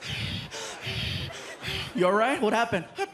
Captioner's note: breathing heavily